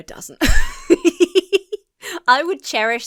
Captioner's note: laughs